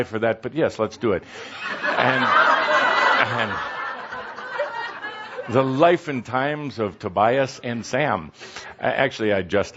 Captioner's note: laughter